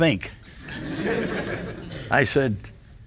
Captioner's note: audience laughs